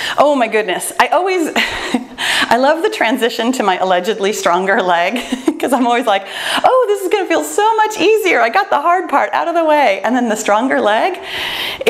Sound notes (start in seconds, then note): 1.8 laughs; 5.1 laughs